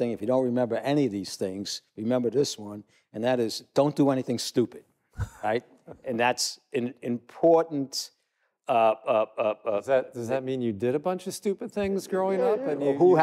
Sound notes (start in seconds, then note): 5.2 laughs